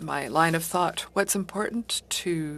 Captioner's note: speaking French